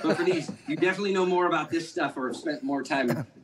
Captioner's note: laughter